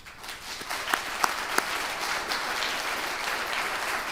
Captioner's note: attendees applauding